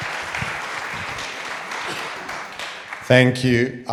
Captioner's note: audience applauding